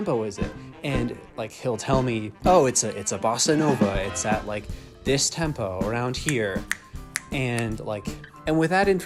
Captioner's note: snapping